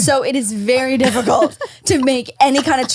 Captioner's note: laughs